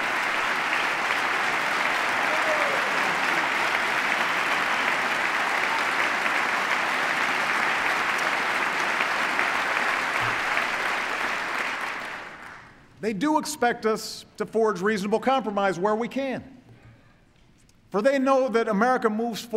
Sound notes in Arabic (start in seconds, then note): 2.3 تصفيق